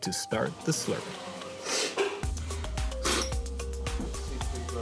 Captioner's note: all slurping